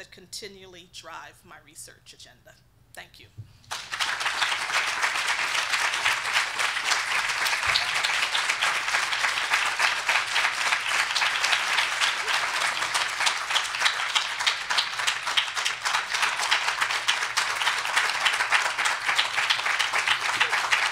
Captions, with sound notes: continually drive my research agenda. Thank you. (audience applauding)